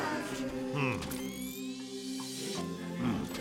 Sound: whirring; distant singing

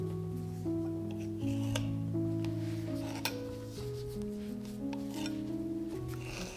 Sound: knife gently slides against counter

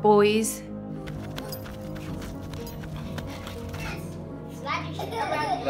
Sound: feet thudding; metal clanking; Lucas laughs

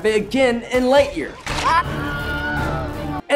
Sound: Buzz Lightyear screams

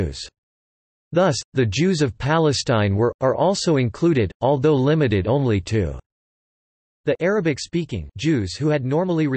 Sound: arabic-speaking

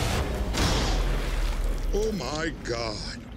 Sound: gun fires

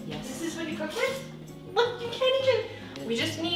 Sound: none

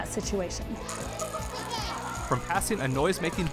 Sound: children laughing

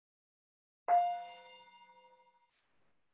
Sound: chime

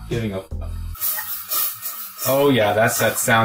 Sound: milk burning

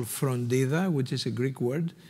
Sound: speaking in foreign language

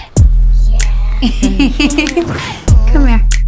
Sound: all laughing

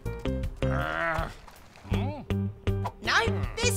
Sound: alien growls

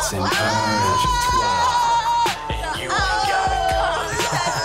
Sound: women hooting and hollering

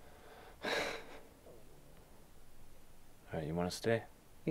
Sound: sighing

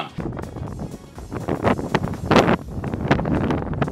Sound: wind gusts

